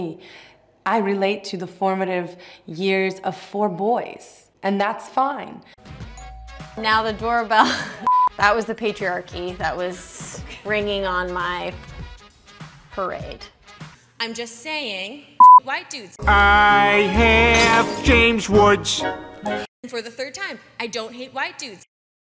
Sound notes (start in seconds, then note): 5.9 doorbell rings